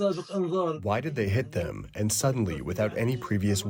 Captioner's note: through translator